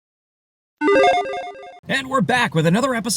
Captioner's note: logo chiming